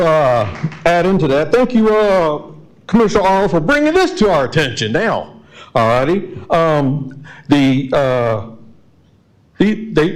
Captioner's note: applause